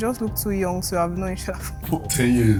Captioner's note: laughs